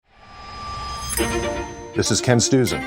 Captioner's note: bells chiming